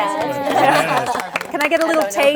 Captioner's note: cheers and applause